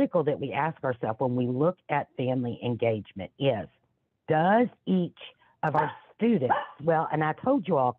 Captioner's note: dog barks